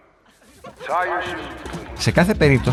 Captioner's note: laughing